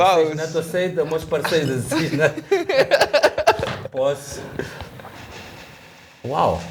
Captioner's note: laughter